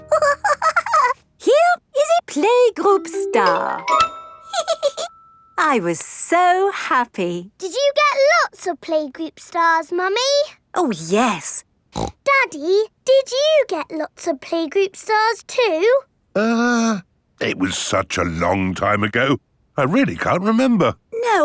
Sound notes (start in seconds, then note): 0.0 snorts and giggles; 4.5 giggles; 11.9 snorts